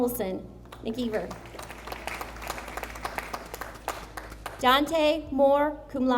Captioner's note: audience applauding